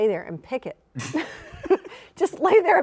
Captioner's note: chuckles